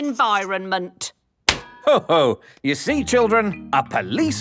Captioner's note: slaps